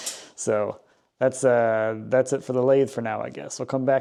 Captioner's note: laughs